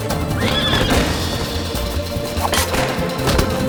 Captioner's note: horse whinnying